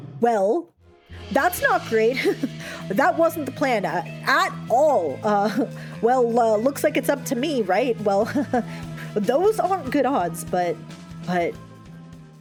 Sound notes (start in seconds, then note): 8.2 nervous chuckle